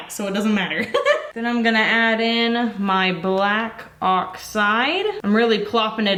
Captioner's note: laughs